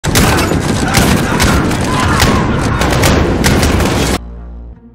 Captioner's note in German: Schreien